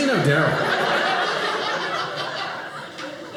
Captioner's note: audience laughing